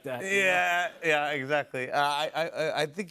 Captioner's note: none